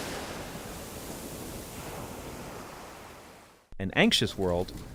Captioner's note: waves crashing